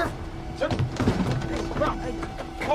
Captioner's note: footsteps thudding; men scuffling